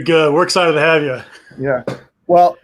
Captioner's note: laughs